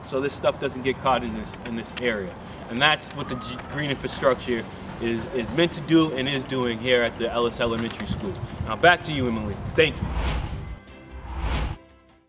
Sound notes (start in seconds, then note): 8.7 upbeat music; 9.8 logo whooshing